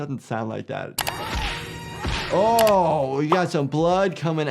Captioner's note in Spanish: Indiana gritando